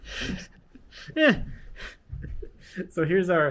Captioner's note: chuckles